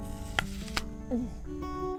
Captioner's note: crunch